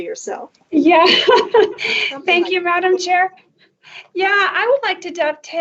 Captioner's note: laughs